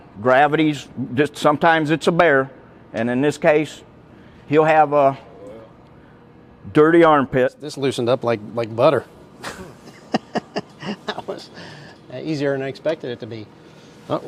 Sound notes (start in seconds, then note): 9.4 laughs